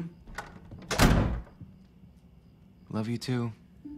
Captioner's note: door closes